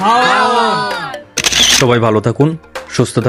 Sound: picture snap sound

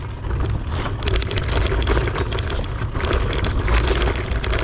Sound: bike clattering

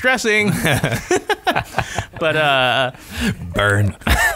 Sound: laughter

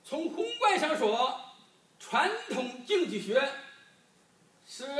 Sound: speaking foreign language

